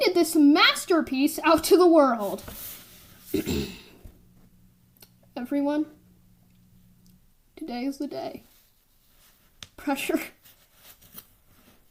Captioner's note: ahem